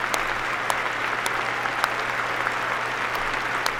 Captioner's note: applause